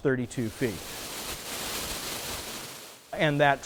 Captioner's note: water rushing